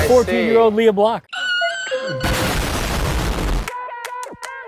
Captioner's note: Oprah screeches; explosion booms